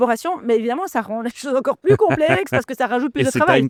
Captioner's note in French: Rires